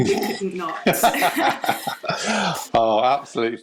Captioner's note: laughter